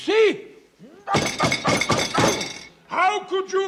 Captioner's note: grunting